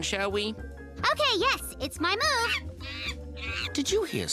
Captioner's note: Bob chatters through walkie-talkie